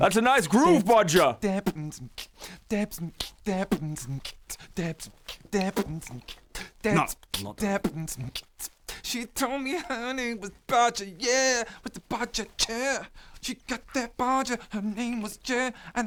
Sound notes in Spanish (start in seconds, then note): 2.6 sigue haciendo beatboxing